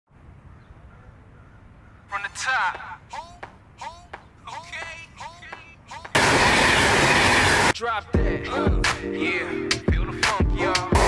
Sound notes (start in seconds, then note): 2.0 hip hop music; 6.1 loud train noise; 6.7 hip hop music